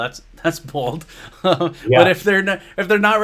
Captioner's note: chuckles